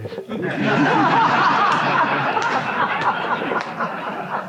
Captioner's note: audience laughs